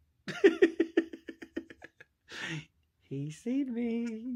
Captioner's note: laughs